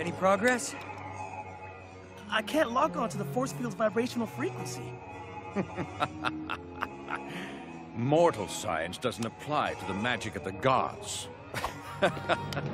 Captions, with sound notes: Any progress? I can't lock on to the force field's vibrational frequency. (Evil laughing) Mortal science doesn't apply to the magic of the gods.